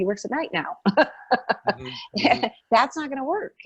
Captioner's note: laughing